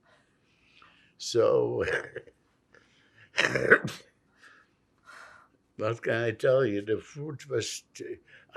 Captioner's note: coughing